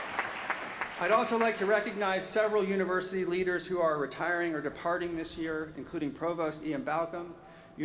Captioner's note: applause